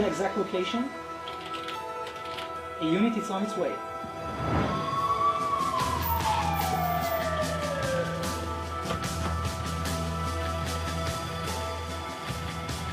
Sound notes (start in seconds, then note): 4.0 shwoosing; 4.7 alarms sounding; 6.1 upbeat music